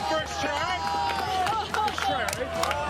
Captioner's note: crowd cheers